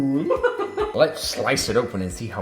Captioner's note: laughing